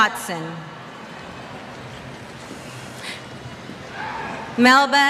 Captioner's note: cheers